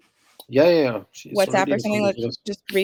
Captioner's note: chatter